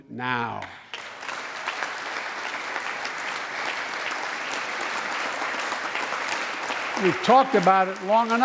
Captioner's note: applause